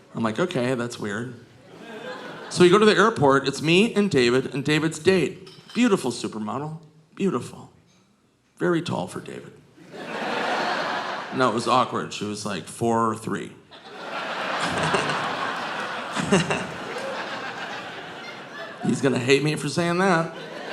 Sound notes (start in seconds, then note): 9.8 audience laughing; 13.7 audience laughing; 14.5 Nick chuckles